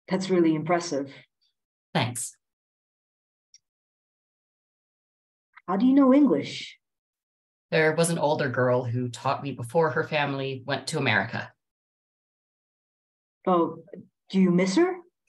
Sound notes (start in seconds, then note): 2.1 silence